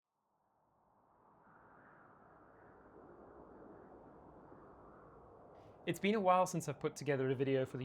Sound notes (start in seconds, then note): 2.2 wind blowing